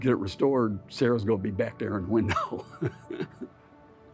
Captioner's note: chuckling; gentle music